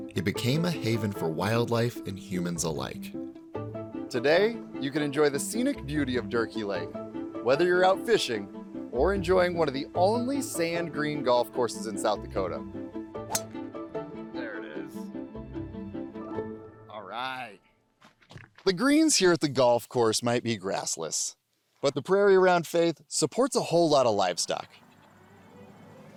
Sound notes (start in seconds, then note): 13.2 WHACK - the sound of a solidly hit drive